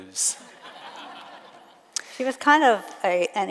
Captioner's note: audience laughs